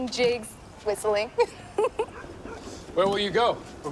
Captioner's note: giggling